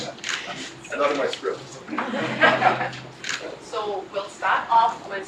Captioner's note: laugh